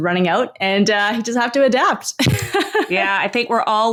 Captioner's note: laughs